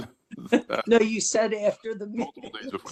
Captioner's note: laugh